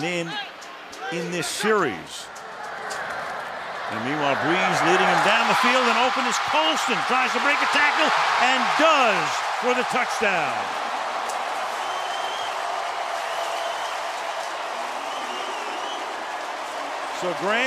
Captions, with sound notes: has not been in in this series. And meanwhile, Brees leading him down the field. And open is Colston! Tries to break a tackle. And does for the touchdown! [cheering] [pa announcement]